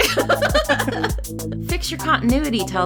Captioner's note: laughs